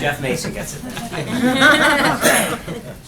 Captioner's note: laughter